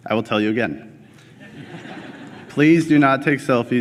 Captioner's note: laughter